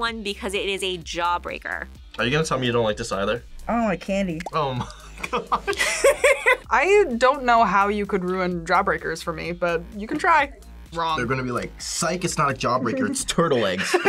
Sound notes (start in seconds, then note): 4.6 both laugh